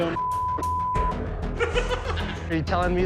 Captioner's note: laughing